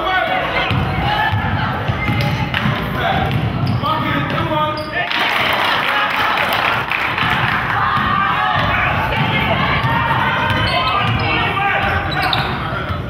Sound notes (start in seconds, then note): 5.0 crowd claps